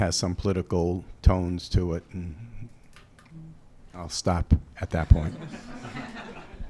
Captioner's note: chuckles